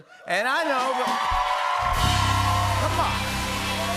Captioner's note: cheers and applause